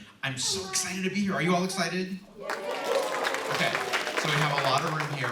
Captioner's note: applause